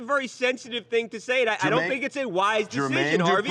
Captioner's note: laughter